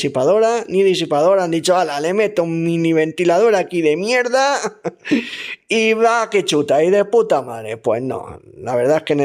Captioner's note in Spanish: risas